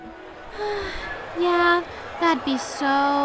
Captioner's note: sigh